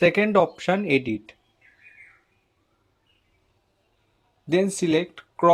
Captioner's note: muted